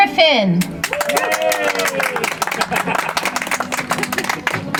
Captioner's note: audience applauds